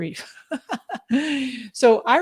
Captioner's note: laughs